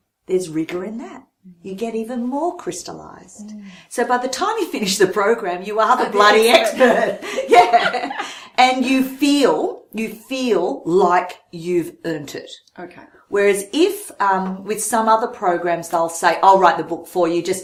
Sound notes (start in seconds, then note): 8.1 both laughing